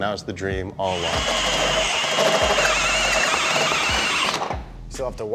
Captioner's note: drill whirring